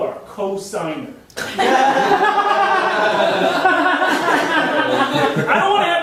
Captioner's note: audience laughing